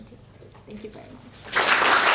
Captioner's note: applause